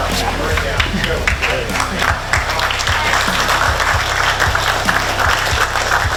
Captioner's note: audience clapping